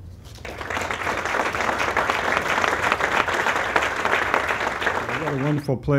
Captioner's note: applause